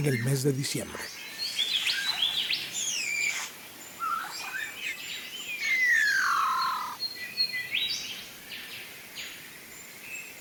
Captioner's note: ambient, Bowerbird courtship calls